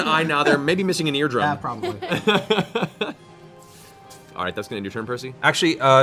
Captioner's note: laughs